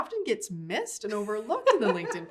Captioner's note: laughs